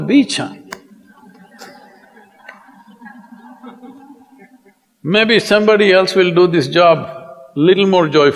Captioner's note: laughter